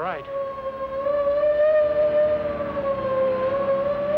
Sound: sirens

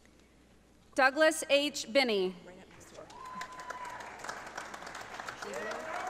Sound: audience applauding

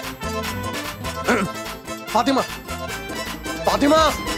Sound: grunting

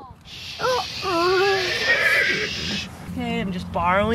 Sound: horse neighs

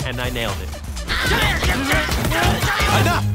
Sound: grunting

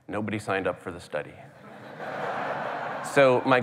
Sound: laughter

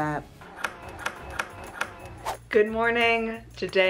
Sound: scissors cutting

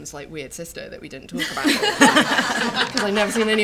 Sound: laughter

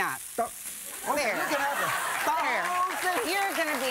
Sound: crowd; laughter

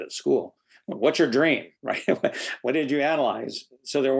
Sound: laughs

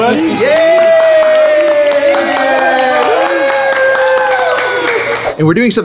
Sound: everyone cheering

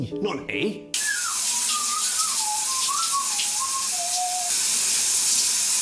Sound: whistles the original tune. Also badly

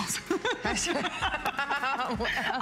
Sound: laughter

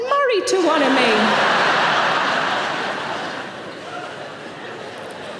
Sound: audience laughing

